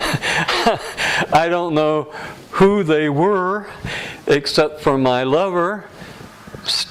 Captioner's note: laughter